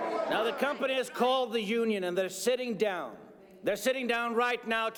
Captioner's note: people clamoring